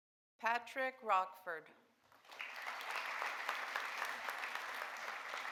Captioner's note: audience applauding